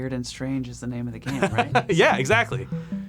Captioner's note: laughs; smooth music